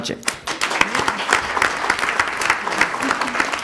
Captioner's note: applauding